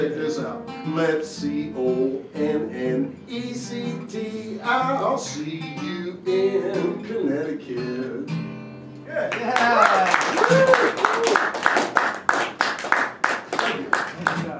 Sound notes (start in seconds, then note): 9.2 applause; 9.4 shouts